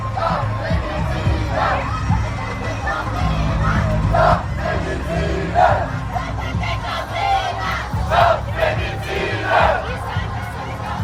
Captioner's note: repeated chanting